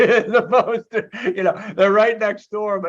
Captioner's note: laughing